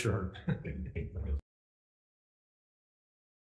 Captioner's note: laughter